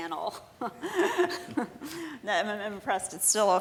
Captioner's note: laughing